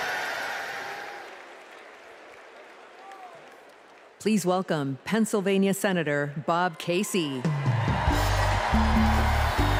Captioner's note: cheers and applause